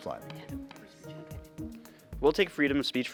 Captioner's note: players whisper